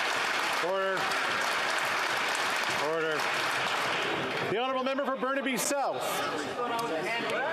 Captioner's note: some Applause